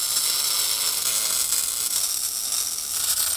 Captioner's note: sharp buzzing